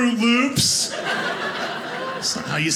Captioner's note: audience laughing